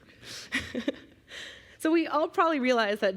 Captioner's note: chuckling